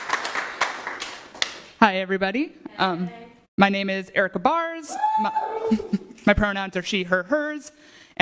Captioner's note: applause